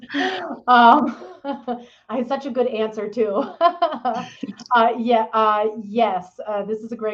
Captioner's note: chuckles